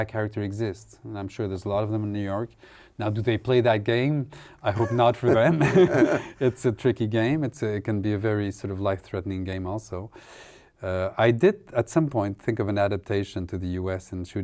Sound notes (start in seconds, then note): 4.7 laughter